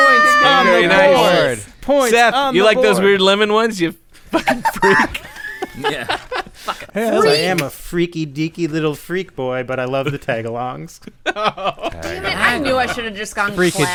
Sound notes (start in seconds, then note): 4.2 laughter